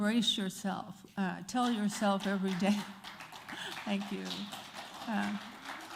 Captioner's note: applause